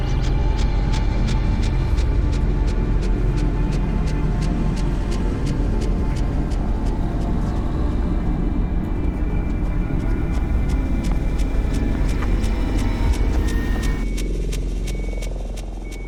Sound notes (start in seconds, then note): 12.3 rapid footsteps; 14.1 ominous music; 14.9 high pitched beeping